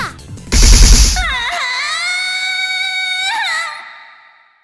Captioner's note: moan